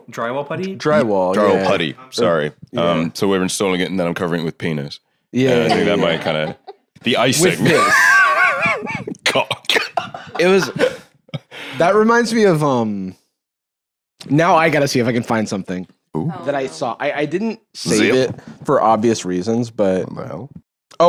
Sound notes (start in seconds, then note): 7.3 laughs